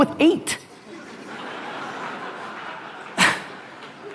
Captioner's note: audience laughter